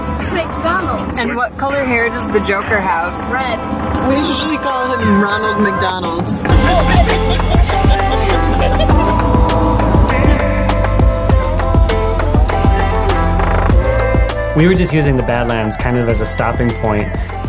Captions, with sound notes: McDonald's. And what color hair does the Joker have? Red. We usually call him Ronald McDonald. [Laughing] We were just using the Badlands kind of as a stopping point